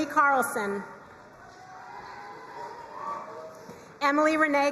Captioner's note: crowd cheering and applauding